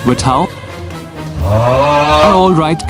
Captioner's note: groans